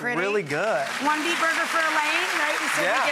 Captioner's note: audience applause